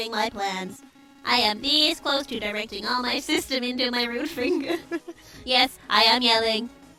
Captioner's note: laughs